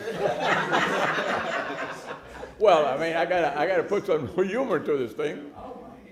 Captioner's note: laughter